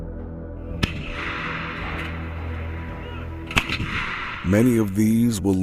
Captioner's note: blasts